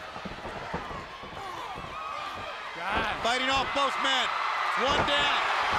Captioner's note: crowd chatter